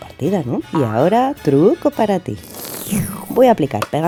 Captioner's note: sips coffee